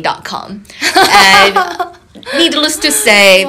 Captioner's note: laughing